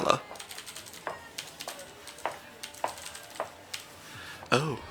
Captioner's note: typing sounds; footsteps